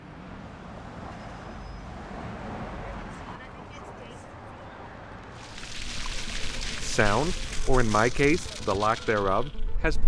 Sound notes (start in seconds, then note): 2.9 indistinct chatter; 5.4 gurgling